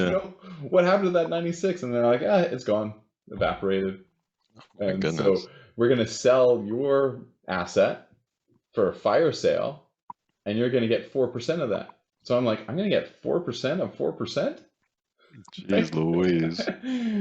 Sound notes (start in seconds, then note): 15.6 chuckles